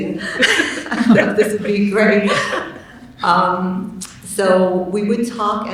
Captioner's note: laughing drowns out words